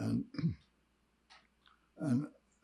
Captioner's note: clears throat